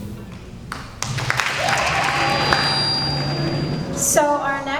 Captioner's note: applause